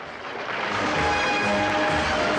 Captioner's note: audience applauding; grand orchestral music